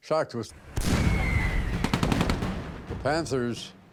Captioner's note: shells firing